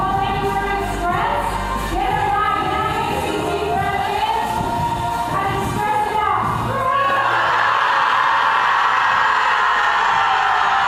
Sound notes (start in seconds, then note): 6.8 loud yelling